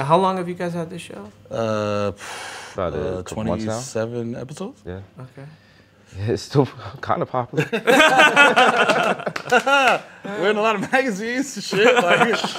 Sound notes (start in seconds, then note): 7.5 laughter